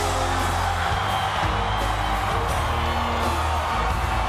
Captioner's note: audience cheers; upbeat music